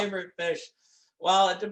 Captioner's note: hands clapping